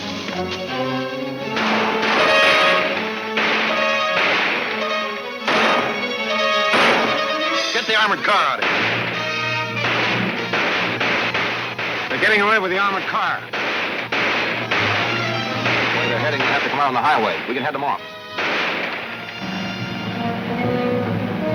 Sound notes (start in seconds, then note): 0.0 gun firing; 0.3 exciting orchestra music; 0.3 guns firing; 9.8 guns firing; 13.5 guns firing; 17.8 dramatic orchestra music